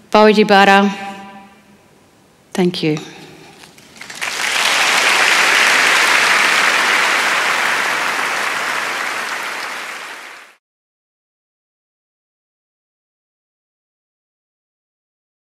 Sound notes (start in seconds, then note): 3.8 applause